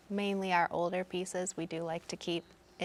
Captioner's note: none